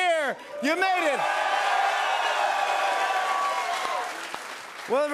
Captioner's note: cheers and applause